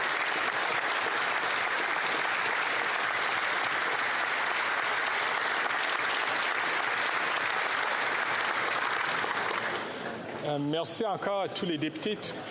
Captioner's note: applause